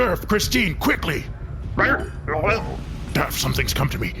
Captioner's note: gurgles